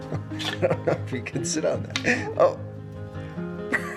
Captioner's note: laughs; laughs